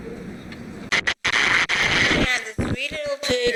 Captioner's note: squelching